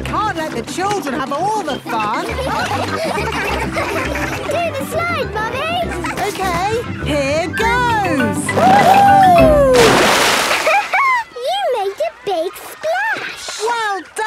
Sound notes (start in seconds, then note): 1.6 all laughing